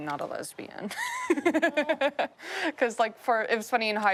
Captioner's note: laughs